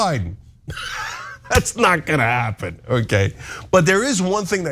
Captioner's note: laugh